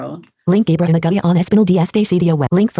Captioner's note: non-english speech